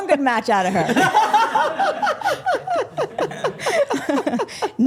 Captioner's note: group laughing